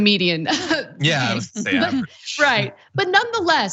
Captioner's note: laugh